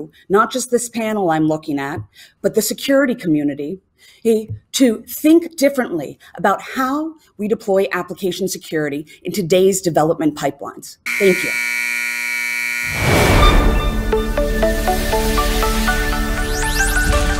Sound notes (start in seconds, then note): 11.0 buzzer